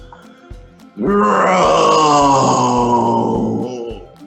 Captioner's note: groaning